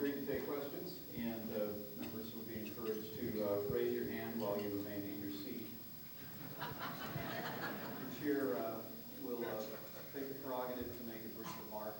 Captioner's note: laughter